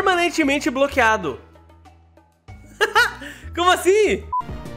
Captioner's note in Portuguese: risos